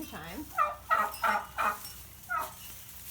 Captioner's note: turkeys vocalizing